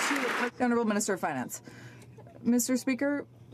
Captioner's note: some Applause